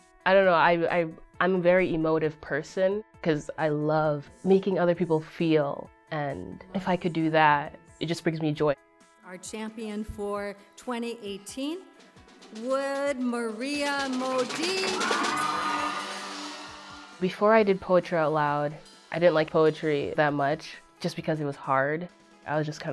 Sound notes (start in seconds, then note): 14.4 applause